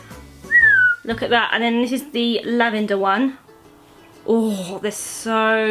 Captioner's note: whistles approvingly